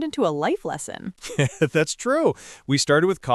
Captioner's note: laughs